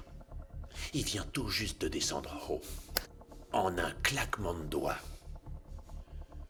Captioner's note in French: claquements de doigts